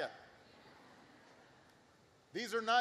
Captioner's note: laughter